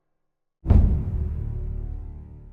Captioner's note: thudding effect